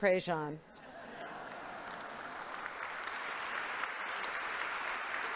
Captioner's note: congregation applauding